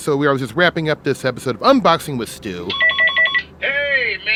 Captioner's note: comms ringing